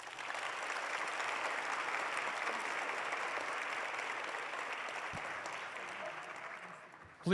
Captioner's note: applause